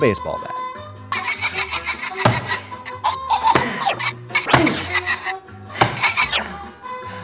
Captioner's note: billy laughing